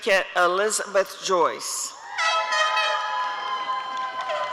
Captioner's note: applause and cheering